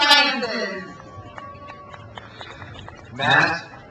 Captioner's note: crowd applauds